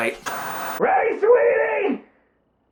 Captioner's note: static